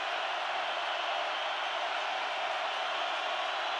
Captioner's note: crowd cheering